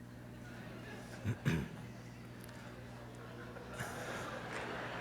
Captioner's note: laughter